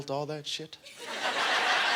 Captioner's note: audience laughter